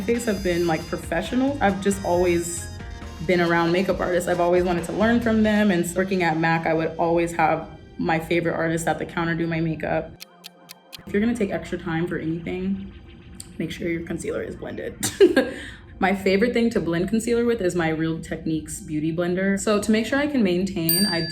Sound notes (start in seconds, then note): 10.2 clock ticking; 15.6 laughs